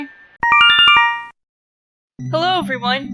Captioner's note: Yume Nikki instructions sound